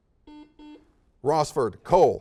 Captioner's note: series of beeps